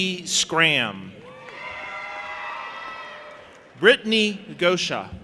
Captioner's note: audience applauding and cheering